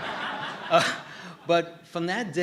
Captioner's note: laughter